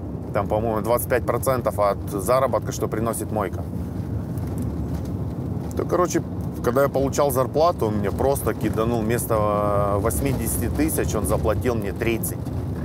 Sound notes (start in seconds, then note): none